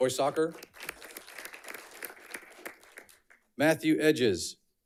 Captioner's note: audience clapping